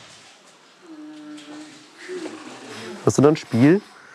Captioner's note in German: Leise Stimmen im Hintergrund